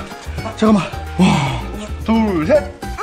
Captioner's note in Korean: 한숨